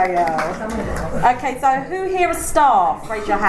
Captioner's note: applause